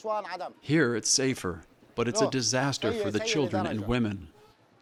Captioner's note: through translator